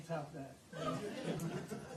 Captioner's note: laughter